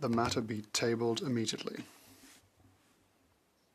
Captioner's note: speaking French